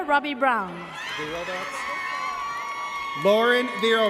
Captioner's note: audience cheers